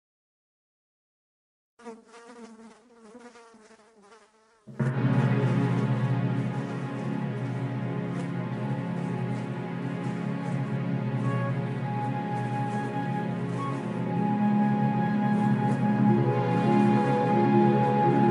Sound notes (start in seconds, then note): 1.8 fly buzzing